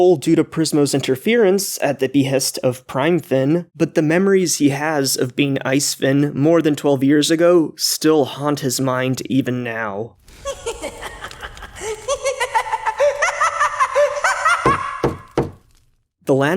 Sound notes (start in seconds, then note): 10.4 Ice Finn's laughter